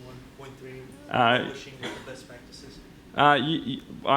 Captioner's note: voiceover